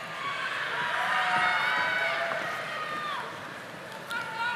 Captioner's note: audience applauding